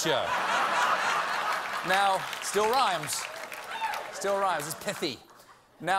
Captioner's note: laughter